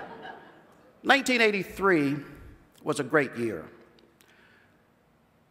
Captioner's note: laughter